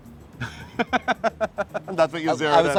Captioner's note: laughs